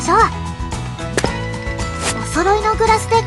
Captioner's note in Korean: 또각